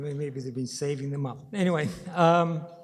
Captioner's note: chuckles